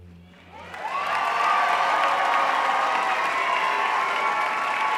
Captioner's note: audience cheering